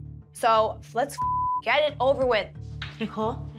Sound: beep

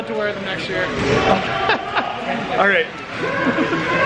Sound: laughs

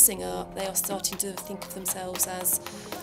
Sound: hands clapping; artists humming

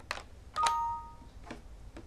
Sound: error sound

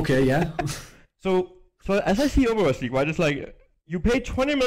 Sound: laughs

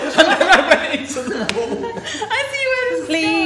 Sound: laughing hard

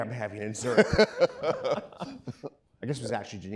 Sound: laughing

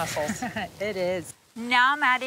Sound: laughing

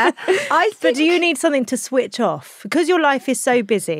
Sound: laughs

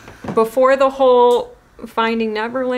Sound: none

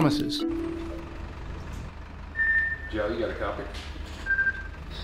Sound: phone ringing

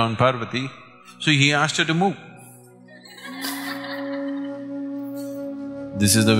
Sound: laughter

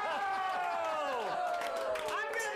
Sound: audience cheers

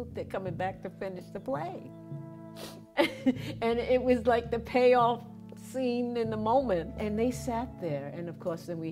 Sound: laughter

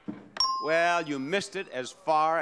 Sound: bell chiming

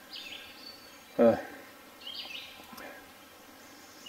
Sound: birds chirping

